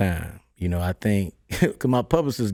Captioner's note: laughs